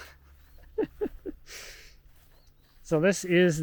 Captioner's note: laughs